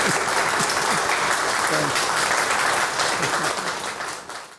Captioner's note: audience applauding